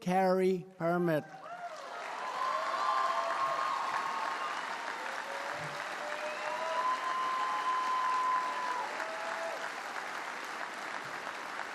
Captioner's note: applause